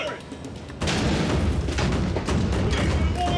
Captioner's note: loud bang